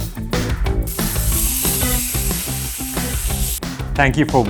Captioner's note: meat sizzling